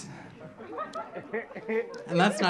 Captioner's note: audience laughing